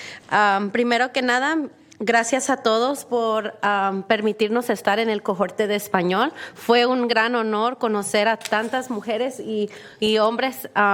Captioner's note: speak spanish